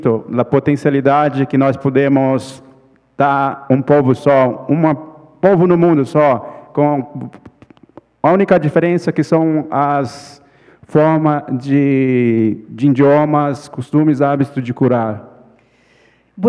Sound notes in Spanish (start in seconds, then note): 0.0 ponente habla en portugués